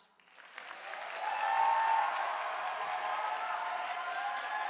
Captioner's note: audience applauding